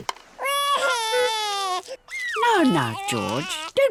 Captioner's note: wailing